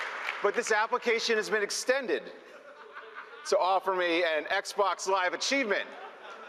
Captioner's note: applause